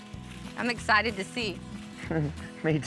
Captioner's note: chuckles